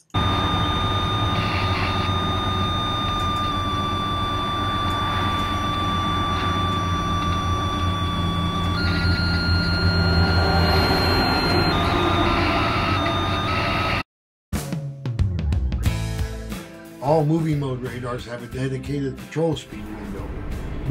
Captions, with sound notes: [ 67 MPH Target Tone ] [ 65 MPH Target Tone ] [ 78 MPH Target Tone ] [ 67 MPH Target Tone ] All moving mode radars have a dedicated patrol speed window.